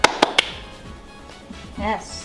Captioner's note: clapping